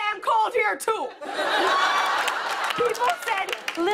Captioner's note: laughter and applause